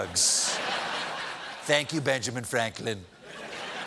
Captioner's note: laughter